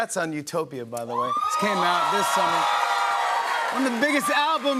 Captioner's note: cheers and applause